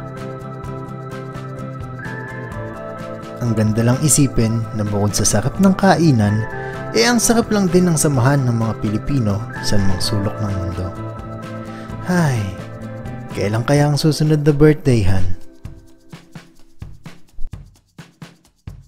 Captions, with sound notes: It was just amazing to think that wherever we are in the world, Filipinos are always solid! (Sigh) I can't wait for another birthday party.